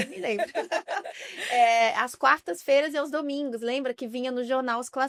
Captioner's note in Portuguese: risadas